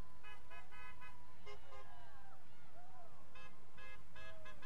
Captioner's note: horns honking